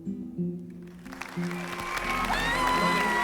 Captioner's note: cheering and applause